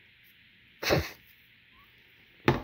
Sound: snorts

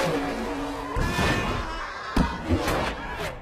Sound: scream

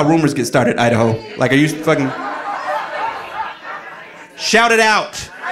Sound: audience laughing

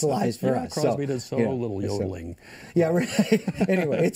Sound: laughter

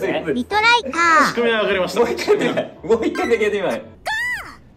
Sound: laughs

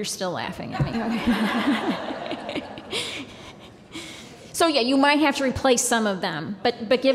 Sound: laughter

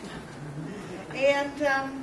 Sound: chuckling

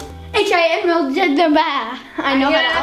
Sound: mumbling

